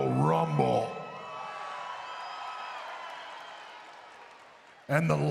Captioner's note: crowd cheering